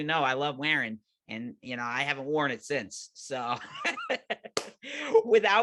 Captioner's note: laughing